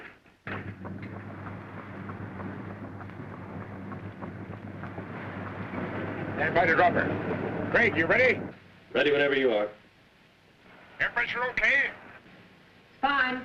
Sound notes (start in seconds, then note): 0.5 machinery whirring